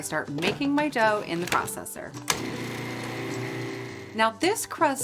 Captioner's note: processor whirring